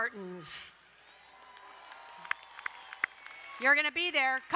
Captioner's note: crowd cheering and applauding